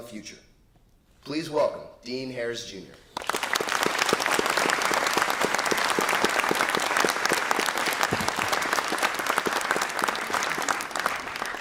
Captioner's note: applause